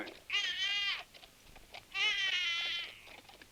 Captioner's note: baby crying